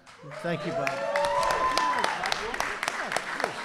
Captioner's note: applause